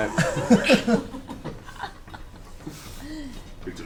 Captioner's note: all laugh